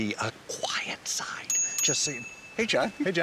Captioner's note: bicycle bell ringing